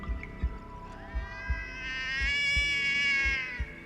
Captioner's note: cat yowling